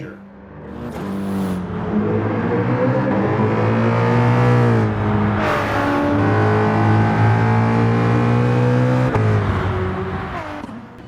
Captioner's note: engines revving, cars noises